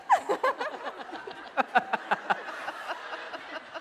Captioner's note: laughing